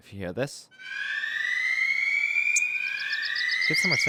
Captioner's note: siren-like alert